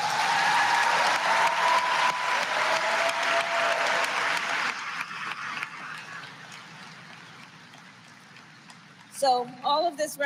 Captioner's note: applause